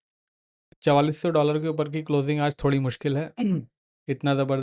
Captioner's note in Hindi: गला साफ़ करने की आवाज़